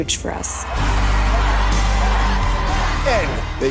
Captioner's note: cheering